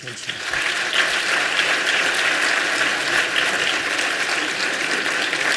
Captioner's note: applause